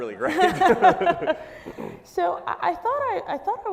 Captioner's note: both laughing